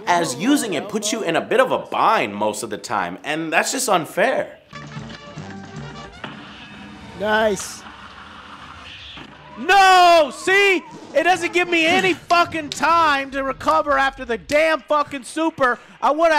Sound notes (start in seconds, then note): 6.9 with a lot of yelling